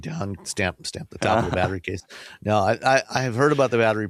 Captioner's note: laughs